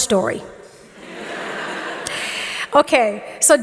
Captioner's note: audience laughing